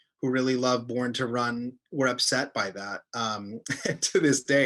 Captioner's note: chuckles